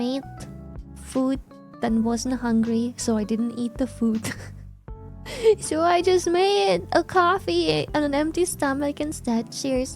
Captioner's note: laughs